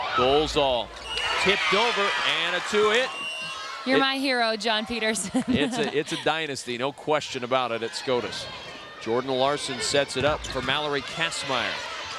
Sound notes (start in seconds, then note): 4.8 laughs